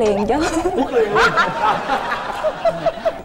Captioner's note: laughing